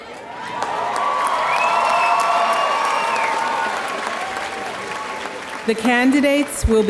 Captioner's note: audience cheering and applauding